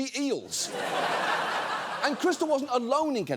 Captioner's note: audience laughs